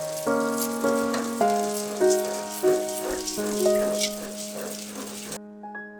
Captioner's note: laughs